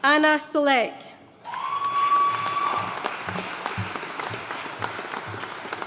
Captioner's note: audience cheering and applauding